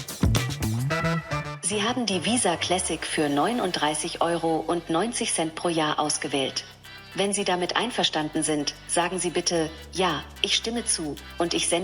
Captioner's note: foreign Language